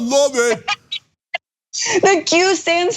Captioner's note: laugh